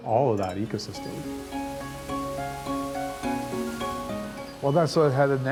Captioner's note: water splashing